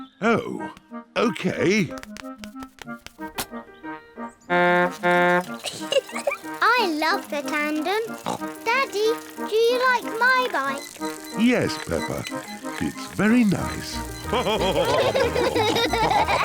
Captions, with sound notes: Oh. Okay. (TOOTS HORN AND GIGGLES) I love the tandem. (SNORTS) Daddy, do you like my bike? Yes, Peppa. It's very nice. (ALL LAUGH)